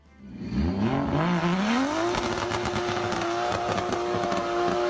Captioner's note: car engine revving